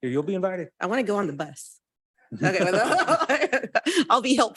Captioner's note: laughs